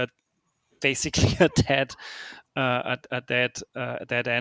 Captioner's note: chuckles